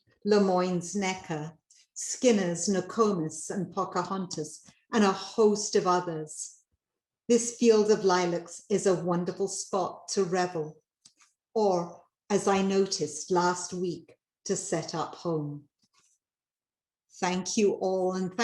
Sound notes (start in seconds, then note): none